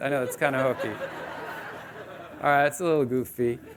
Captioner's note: audience laughing